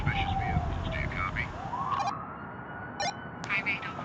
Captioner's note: walkie talkie beep; walkie-talkie beep